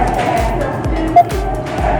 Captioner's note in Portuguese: beep